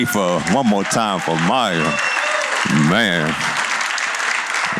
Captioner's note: cheers and applause